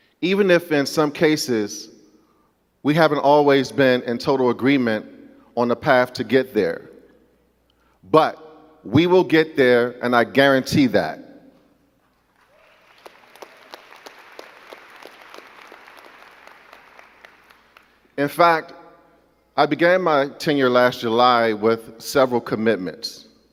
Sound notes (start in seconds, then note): 12.1 crowd clapping